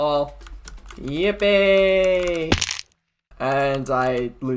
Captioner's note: splat